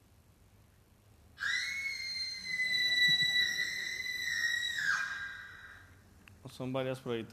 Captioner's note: scream